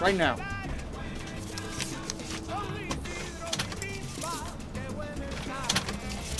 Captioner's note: money moving out of register